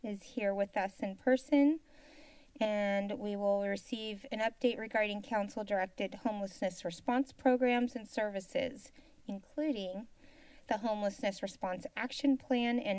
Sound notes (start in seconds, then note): 1.8 silence